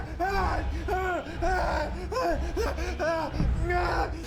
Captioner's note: screaming